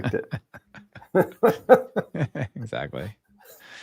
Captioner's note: laughing